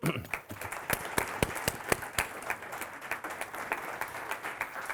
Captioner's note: audience applauding